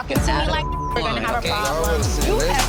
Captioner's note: beeping